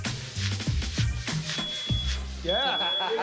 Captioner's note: smoke alarm beeping; laughter